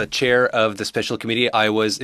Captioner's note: speaking in French